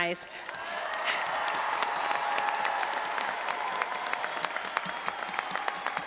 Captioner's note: all applauding and audience cheering